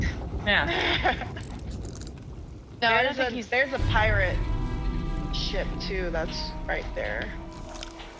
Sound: laugh

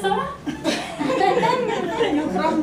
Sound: laughs

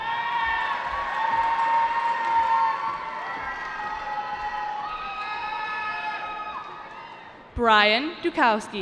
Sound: cheering

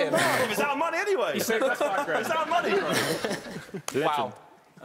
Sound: chattering

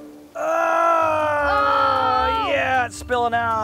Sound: yelling

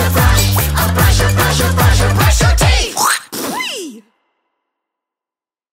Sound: spitting sound

